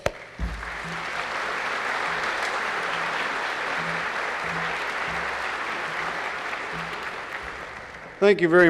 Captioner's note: applause